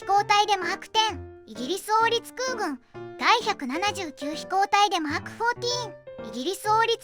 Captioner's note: Polish